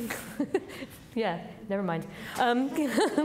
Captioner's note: audience laughing; laughs